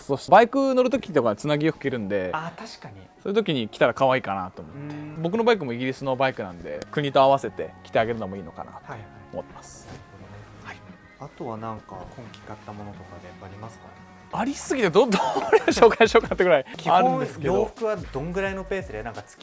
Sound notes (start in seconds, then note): 14.8 laughs